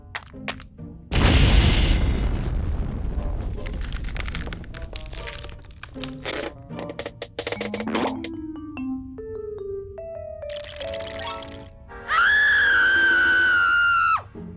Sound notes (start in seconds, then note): 10.5 teeth chattering; 12.0 screams